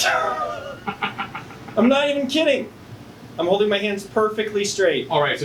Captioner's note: laughs